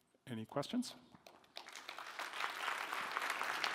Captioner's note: applause